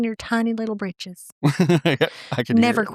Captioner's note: laughing